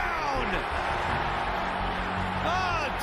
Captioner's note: crowd goes wild